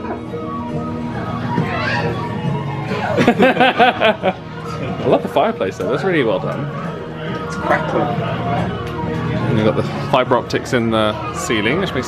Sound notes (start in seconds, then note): 2.8 they laugh